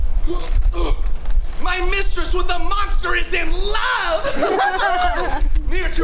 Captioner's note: grunts; laughs